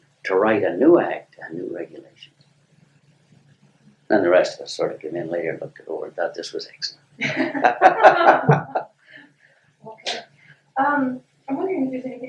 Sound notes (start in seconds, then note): 7.2 laughter